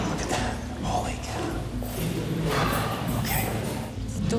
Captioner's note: exhales